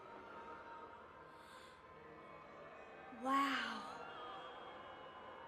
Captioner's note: gasps